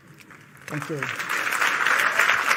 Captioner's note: Аплодисменты